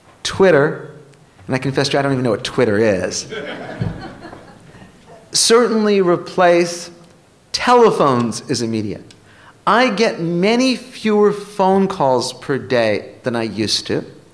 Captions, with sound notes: TWITTER, AND I CONFESS, I DON'T EVEN KNOW WHAT TWITTER IS [LAUGHTER] CERTAINLY REPLACE TELEPHONES AS A MEDIA. I GET MANY FEWER PHONE CALLS PER DAY THAN I USED TO.